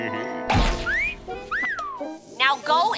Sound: whistling

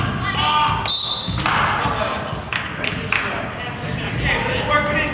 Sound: whistle blows

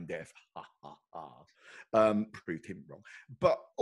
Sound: laughs sarcastically

